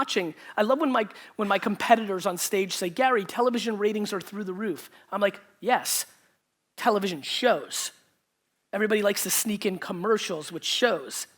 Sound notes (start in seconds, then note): none